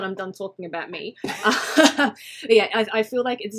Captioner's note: both laughing